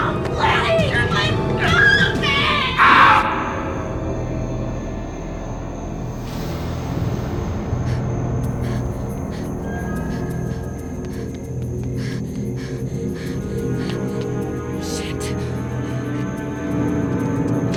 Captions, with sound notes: - Leave me alone, please! Let go of me! (Dennis shouting) (hard breathing) (soft dramatic music) Shit.